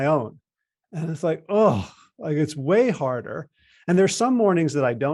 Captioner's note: groans